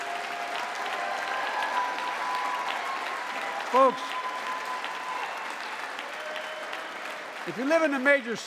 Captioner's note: applause